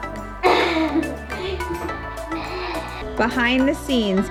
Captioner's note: laughing